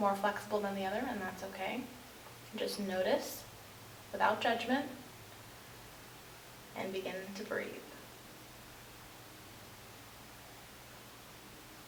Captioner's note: breathing